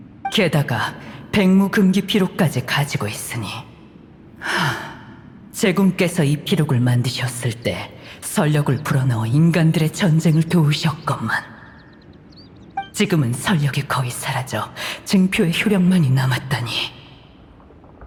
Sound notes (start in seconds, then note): 4.4 sigh